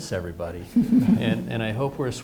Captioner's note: participants laughing